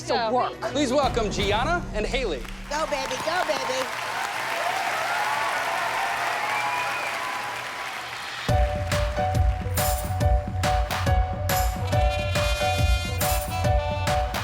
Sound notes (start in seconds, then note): 2.4 applause